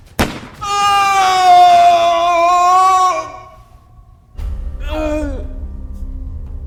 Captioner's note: gunshot booming; Governor screaming